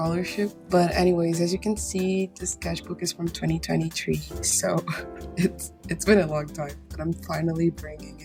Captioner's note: chuckles